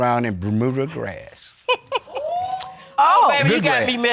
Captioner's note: chuckling; audience whoops